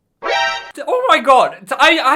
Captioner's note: dramatic music; video game warning chime